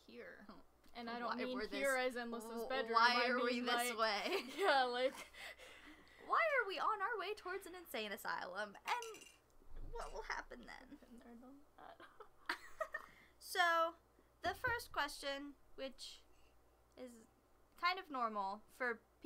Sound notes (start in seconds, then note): 6.0 laughs